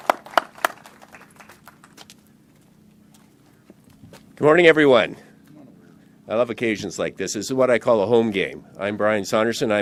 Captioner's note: applause